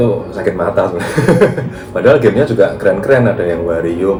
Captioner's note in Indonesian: tertawa